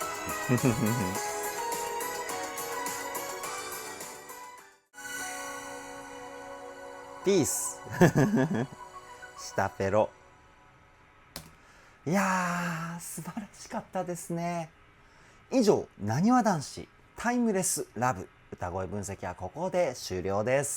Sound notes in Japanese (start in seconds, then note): 7.9 笑い